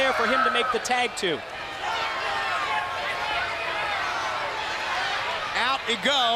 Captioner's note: crowd chatter